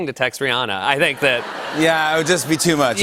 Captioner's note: laughter